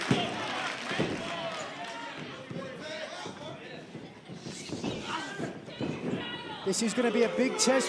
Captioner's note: crowd chatter